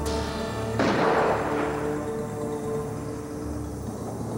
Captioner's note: gun firing